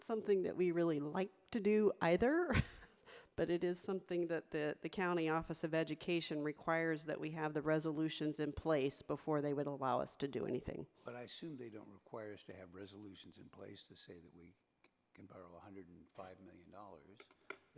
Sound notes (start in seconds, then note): 2.7 laughs